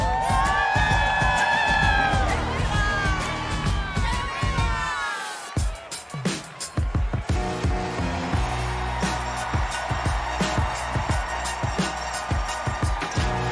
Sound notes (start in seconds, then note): 2.7 cheers and applause